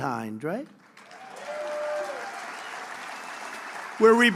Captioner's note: applause